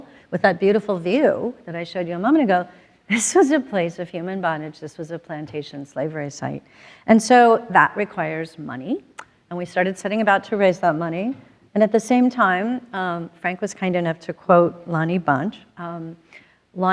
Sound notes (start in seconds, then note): none